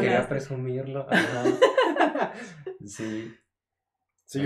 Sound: laughter

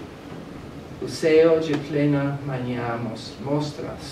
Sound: speaking portuguese

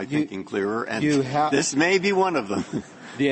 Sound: laughter

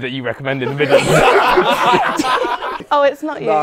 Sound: people laughing

